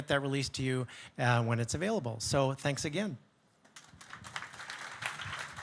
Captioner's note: audience clapping